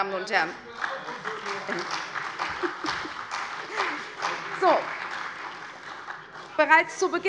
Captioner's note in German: Beifall bei der CDU